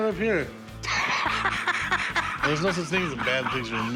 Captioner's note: laughter